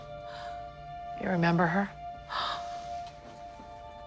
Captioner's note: gasps